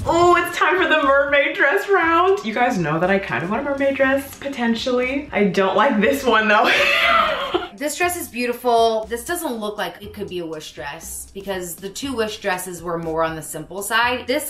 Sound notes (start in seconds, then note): 6.6 laughs